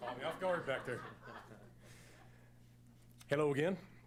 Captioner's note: laughing